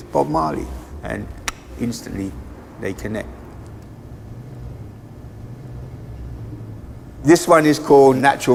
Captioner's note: clicks tongue